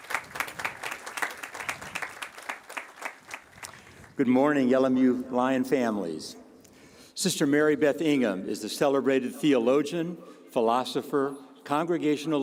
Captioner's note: applause